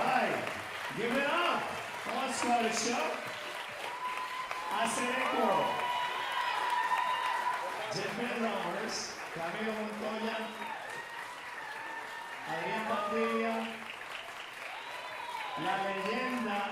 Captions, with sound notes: - All right, give it up, that was quite a show, Casineros. [speaker speaking Spanish] Camilo Montoya, [speaker speaking Spanish]